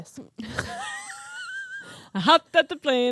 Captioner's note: laughing